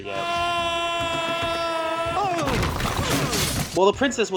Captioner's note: Sounds of Shrek screaming and breaking shit